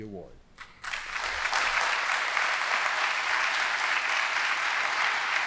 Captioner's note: audience applauding